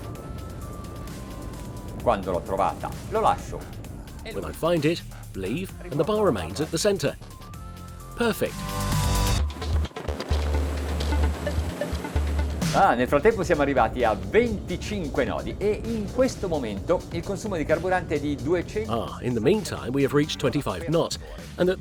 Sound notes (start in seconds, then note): 13.1 speaking in Italian